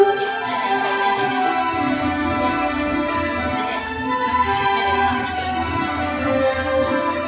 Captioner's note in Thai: ปรบมือ